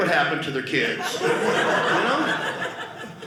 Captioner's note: audience laughing